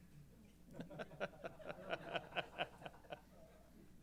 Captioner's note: laughter